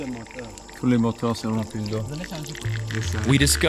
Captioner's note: speaking French